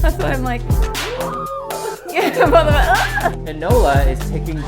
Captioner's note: she squeals